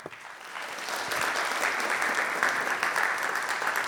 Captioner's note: audience applauding